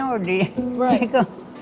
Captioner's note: laughs